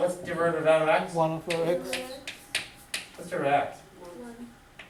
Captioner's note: voiceover